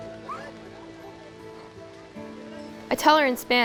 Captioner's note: crying